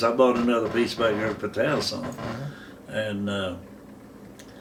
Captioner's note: none